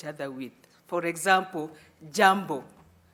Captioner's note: speaking in foreign language